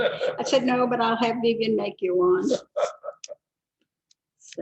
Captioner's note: laughter; laughter